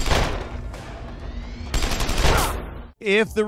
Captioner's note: gunshots booming